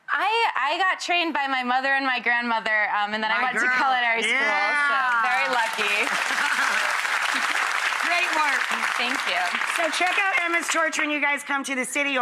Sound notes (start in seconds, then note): 4.9 audience clapping